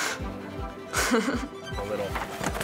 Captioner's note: laughing; upbeat music